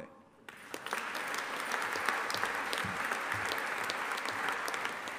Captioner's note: audience applauding